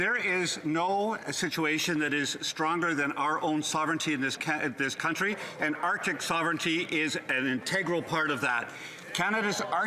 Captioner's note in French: voix de l'interprète